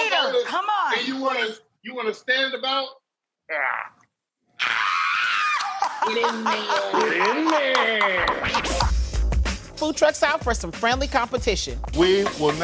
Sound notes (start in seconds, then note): 4.5 excited screaming; 5.1 laughing; 6.2 clapping; 8.1 upbeat music